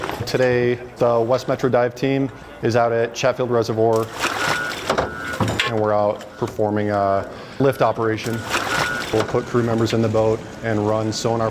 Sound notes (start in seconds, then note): 0.0 fabric rustling; 3.9 water splashing